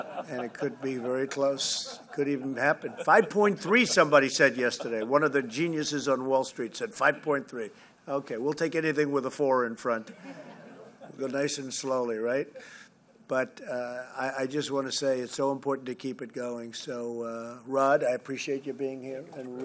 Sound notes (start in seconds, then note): 0.0 laughter; 10.1 laughter